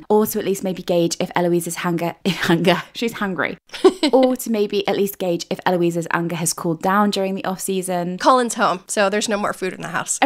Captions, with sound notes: Or to at least maybe gauge if Eloise's "hanger," "Hanger," she's hangry. (laughing) Or to maybe at least gauge if Eloise's anger has cooled down during the off season. - Colin's home, so there's no more food in the house.